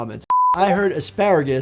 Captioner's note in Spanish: pitido de pantalla